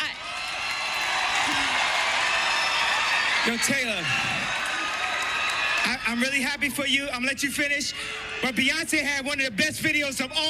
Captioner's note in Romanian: Aplauze